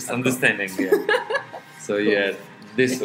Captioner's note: both laugh